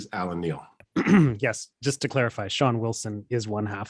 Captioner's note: clears throat